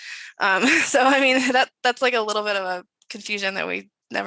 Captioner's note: chuckles